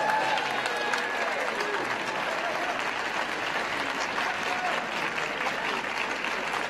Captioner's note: cheers & applause